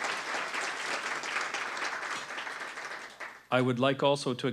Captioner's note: applause